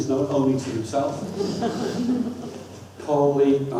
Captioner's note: audience laughs